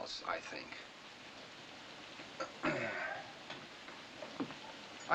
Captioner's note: clears Throat